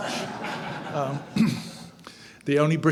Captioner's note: audience laughing